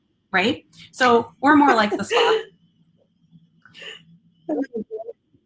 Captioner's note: laughing